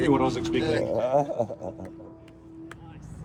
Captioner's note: laughing